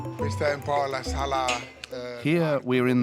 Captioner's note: Italian spoken audio